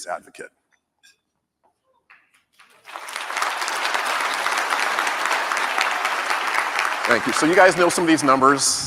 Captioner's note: applause